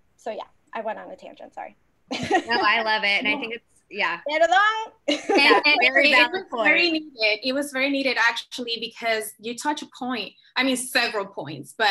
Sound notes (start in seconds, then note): 2.2 laughs; 5.0 speaking in foreign language